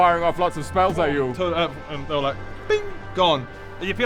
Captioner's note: boof; ping!